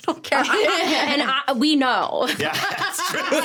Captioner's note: laughing